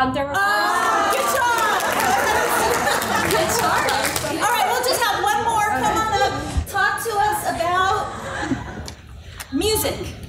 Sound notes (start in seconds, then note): 1.8 laughter